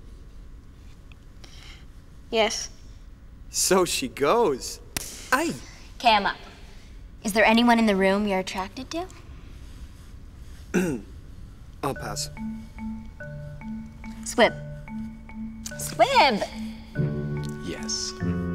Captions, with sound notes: - Yes. - So she goes. (skin being slapped) - Ayy! - 'Kay I'm up. - Is there anyone in the room you're attracted to? (Sebastien clears throat) (Playful music) - I'll pass. - Squib. Squib! - Yes.